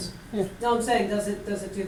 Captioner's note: voiceover